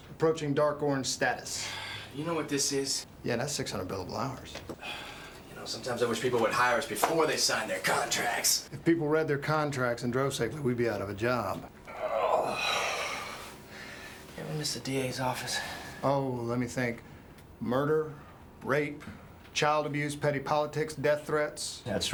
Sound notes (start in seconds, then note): 1.6 sighs; 4.8 sighs; 11.8 Addison grunts